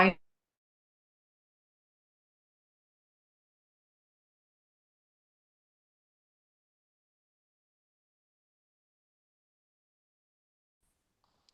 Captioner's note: pause